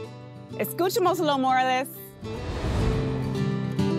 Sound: speaking in Spanish; gentle guitar music

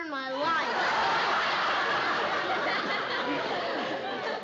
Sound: laughter

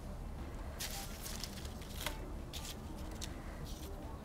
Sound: leaves rustling

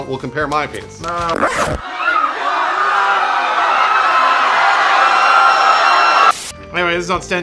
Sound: disgusted screams and exclamations

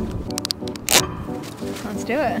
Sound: boot thuds; straps click

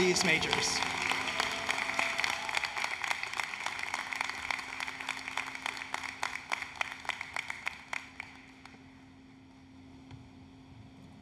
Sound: applause, Cheering

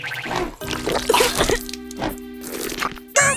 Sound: coughing

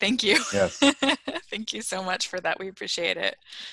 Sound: laughter

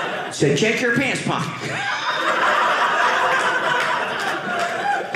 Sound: audience laughing

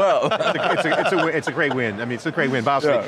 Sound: laughing

